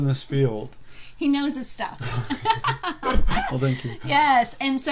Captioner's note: laughing